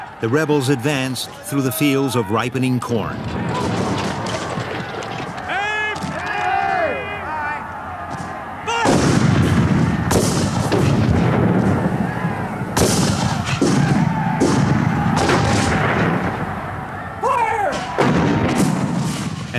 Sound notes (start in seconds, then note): 3.2 guns bang; 10.4 guns bang; 10.4 shouting